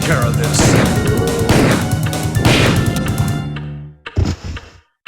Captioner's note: robust music; gun firing; creature slams; object ticking